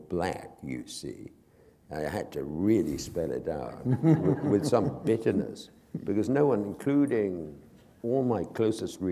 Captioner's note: laughter